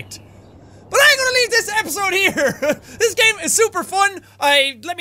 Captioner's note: chuckles